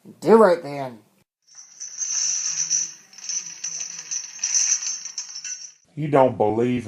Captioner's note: chains rattling